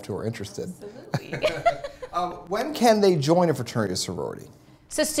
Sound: laughter

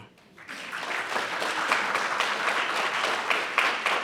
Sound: audience applauding

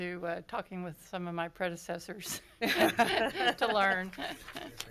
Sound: laughs

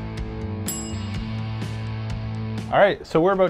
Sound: upbeat rock music; bell dings

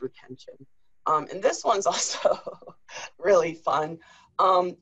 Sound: laughs

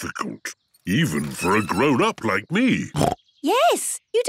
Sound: snorts

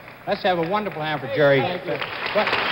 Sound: audience applauds

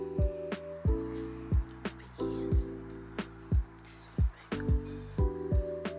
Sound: whispers

